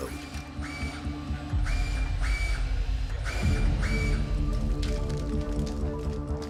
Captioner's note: soft intriguing music; printer whirring